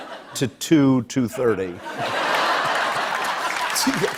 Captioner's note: laughter